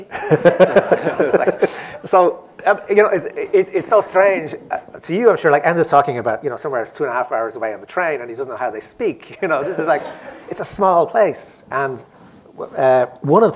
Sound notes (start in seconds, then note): 1.7 laughter